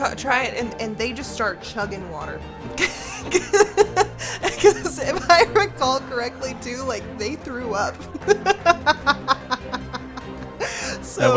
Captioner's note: laughs